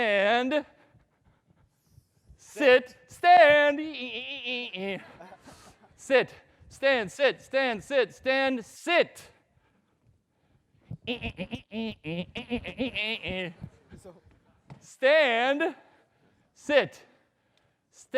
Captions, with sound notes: Stand, sit, stand. Eeeee Sit, stand, sit, stand sit stand sit. (laughs mockingly) Stand sit, stand sit.